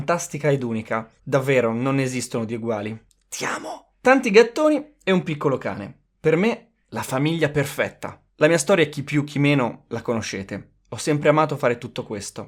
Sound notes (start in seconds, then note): 2.9 whispering